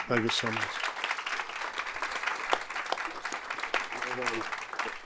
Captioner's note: audience applauding